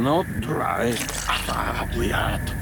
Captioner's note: wet squish